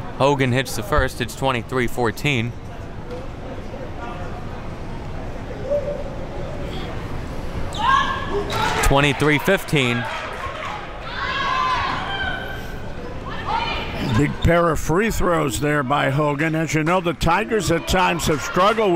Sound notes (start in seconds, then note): 3.4 crowd talking; 7.7 crowd cheers